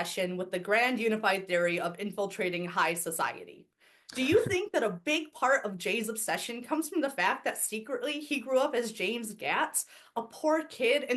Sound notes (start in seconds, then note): 4.2 Professor Greenlight chuckles